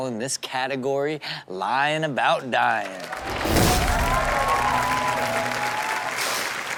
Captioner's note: crowd applauds